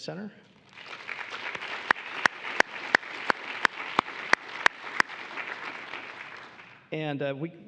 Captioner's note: applause